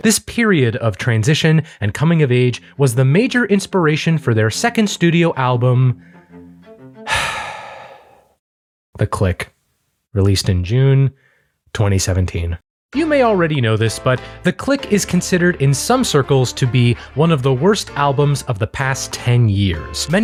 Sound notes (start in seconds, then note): 7.0 sighs heavily